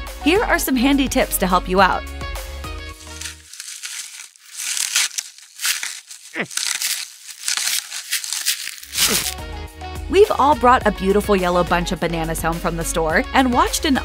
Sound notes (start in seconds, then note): 4.6 struggling, tearing